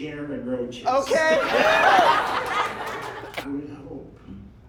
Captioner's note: laughter